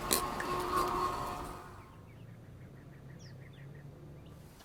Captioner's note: birds chirping